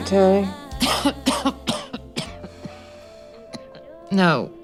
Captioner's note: coughing